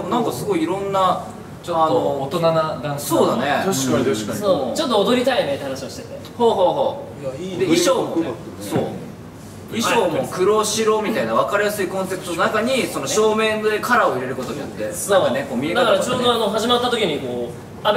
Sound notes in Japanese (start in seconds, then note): none